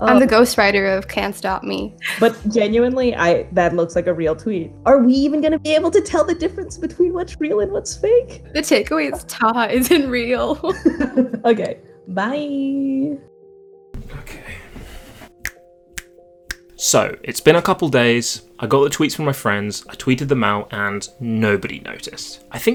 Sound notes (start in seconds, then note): 10.6 laughter; 16.5 snapping fingers sound